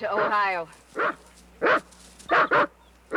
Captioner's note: dog barking